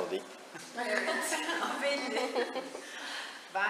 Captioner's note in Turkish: gülüyor